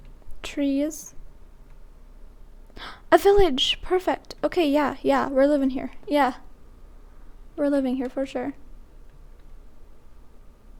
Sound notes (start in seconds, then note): 2.7 gasp